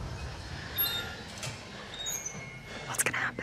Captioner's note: Jonathan panting; lamp squeaking